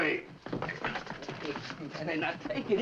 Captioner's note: men struggling